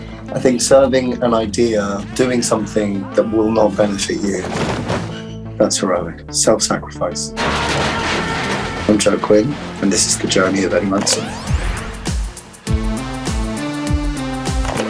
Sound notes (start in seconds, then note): 7.2 Eddie screaming; 11.5 dramatic music; 14.4 loud clicking